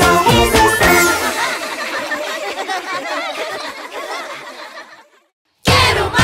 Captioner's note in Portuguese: Risos